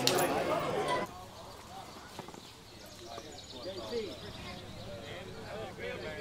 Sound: people chattering; birds chirping

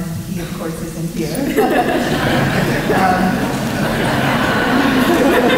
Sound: laughter

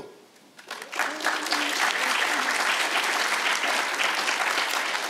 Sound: audience applauds

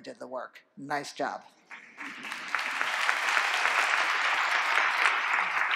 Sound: applause

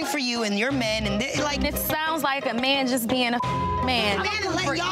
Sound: beep

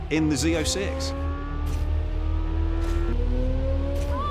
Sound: engine revving

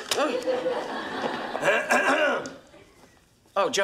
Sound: Joey clears throat

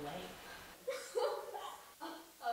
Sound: suzie laughs

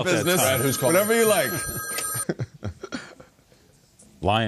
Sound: phone ringing

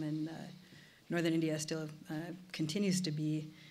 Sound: none

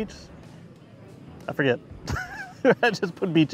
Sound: laughter

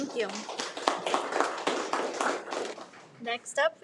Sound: applauds

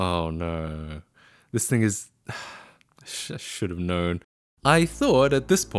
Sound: sigh

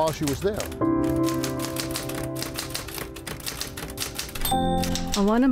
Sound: typewriter tapping

